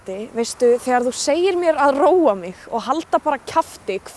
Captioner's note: speaking icelandic